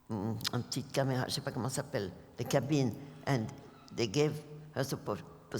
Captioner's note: french